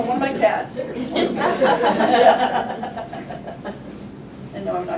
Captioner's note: class laughs